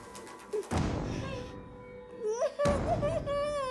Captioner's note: Kathy crying